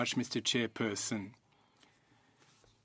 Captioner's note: speaking French